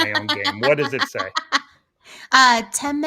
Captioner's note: laughing